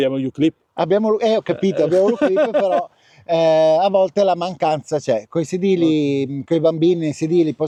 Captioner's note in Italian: risate